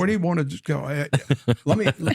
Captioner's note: laughter